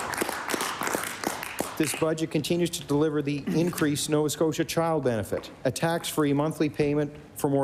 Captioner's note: applause